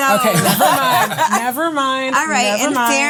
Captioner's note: laughs